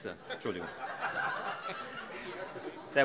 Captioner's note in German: Heiterkeit